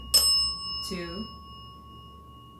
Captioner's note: bell dings